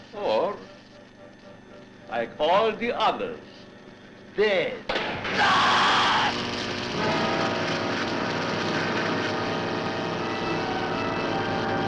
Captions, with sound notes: or like all the others dead. (man screaming) (suspenseful music)